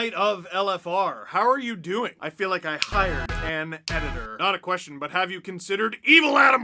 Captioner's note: snap